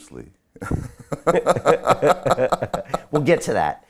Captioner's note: laughing